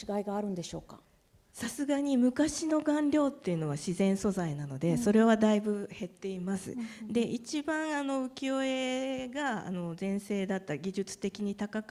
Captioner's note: speaking japanese